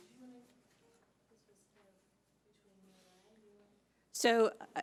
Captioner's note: speaking faintly